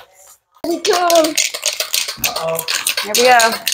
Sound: paint can rattles

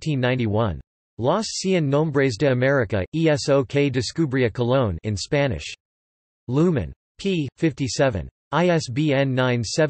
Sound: in Spanish

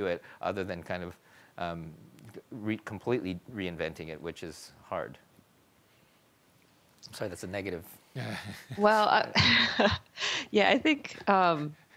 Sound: panelists chuckle

